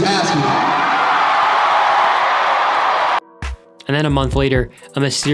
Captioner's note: audience cheering